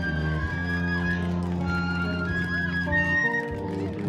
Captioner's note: cheers and applause